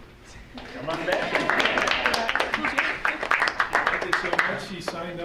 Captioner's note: audience applauding